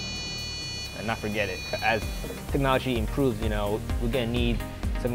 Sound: device beeps

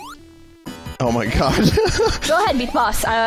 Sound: laughs

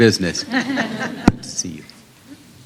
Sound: laughter

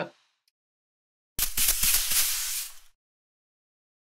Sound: scratching

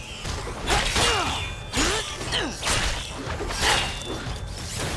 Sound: grunting

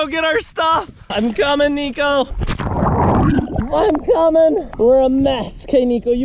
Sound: water whooshing

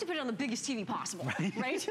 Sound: laughter

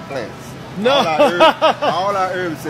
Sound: laughs obnoxiously

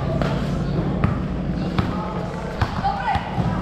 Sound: ball dribbling

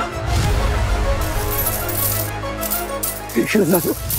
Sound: coins clinking

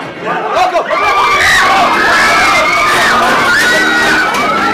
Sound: crowd shouting

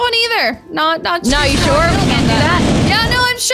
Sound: flames roaring

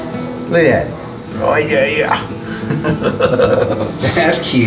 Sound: chuckling

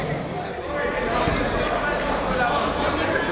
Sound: chatter

